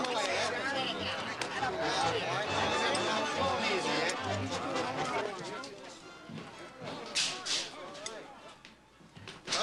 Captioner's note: people talking excitedly